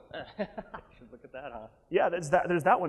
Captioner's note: laughing